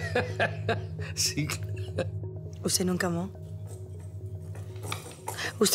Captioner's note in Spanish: Risas